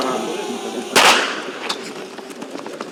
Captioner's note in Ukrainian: пістолетний постріл